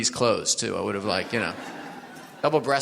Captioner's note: audience laughs